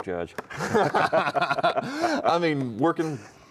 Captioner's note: both laughing